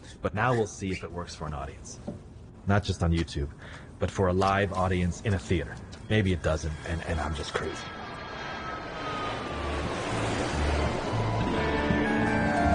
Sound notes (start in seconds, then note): 8.6 airplane swooshing